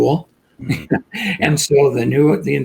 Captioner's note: laughs